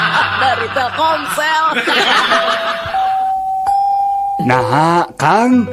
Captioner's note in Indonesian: tertawa